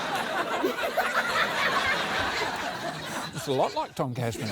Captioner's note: laughter